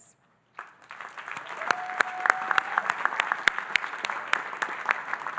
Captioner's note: audience applauding